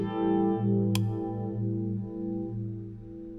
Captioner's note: Switch clicks